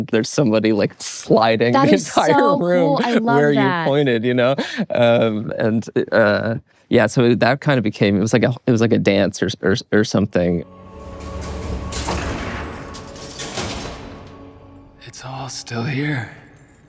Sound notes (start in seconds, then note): 10.6 dramatic music; 10.8 metal clanks